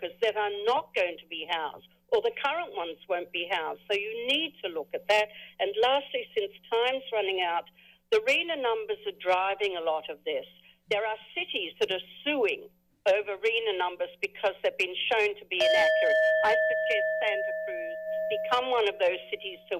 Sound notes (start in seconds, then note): 15.6 timer dings